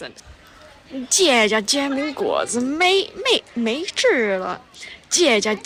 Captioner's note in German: Tianjin Akzent